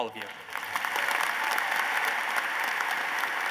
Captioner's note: applause